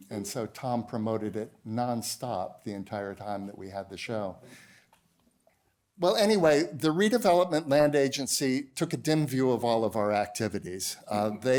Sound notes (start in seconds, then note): none